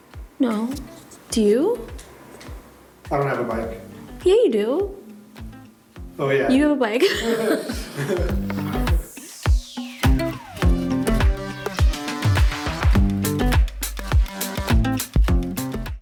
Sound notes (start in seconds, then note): 6.9 laughs; 10.8 upbeat music